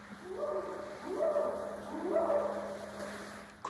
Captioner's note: short howls